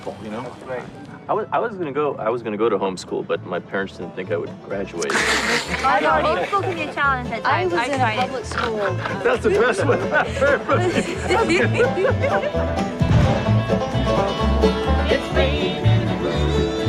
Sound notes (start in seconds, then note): 5.1 person laughing; 8.4 snorts; 10.0 people laughing